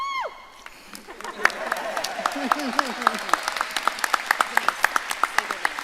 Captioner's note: audience laughing and applauding